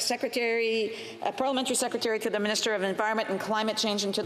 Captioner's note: speaking French